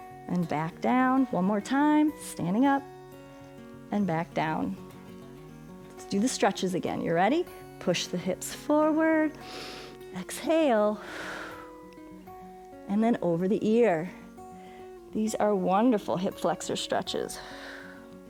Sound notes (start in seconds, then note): 9.4 inhales; 10.9 exhales